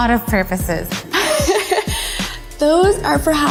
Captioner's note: laughing